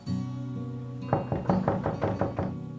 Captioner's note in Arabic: يطرق الباب